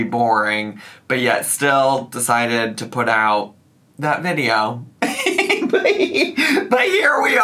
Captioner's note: laughs